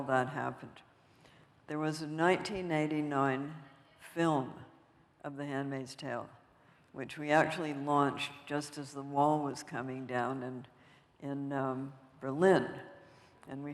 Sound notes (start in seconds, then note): none